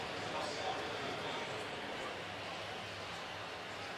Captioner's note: pa announcement